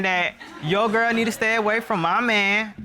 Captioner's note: audience laughing